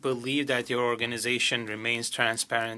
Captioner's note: speaking French